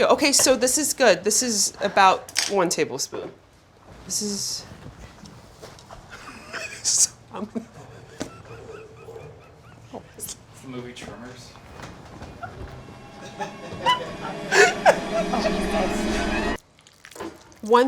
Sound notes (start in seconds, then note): 7.4 laughing; 12.2 intense suspenseful music